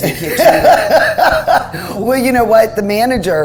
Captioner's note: laughing